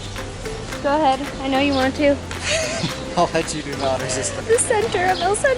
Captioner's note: laughter